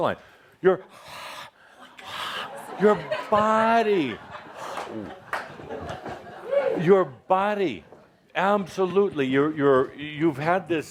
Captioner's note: he breathes